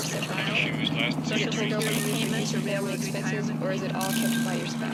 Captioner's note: more layered voices and sounds